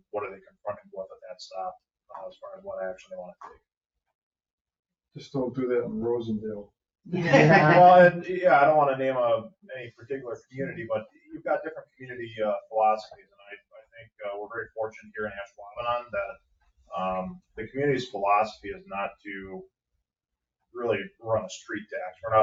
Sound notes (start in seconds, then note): 7.1 group laughing